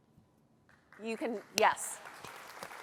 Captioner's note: applause